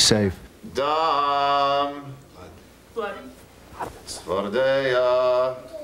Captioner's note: reciting plagues